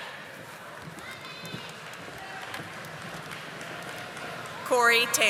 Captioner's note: audience applauding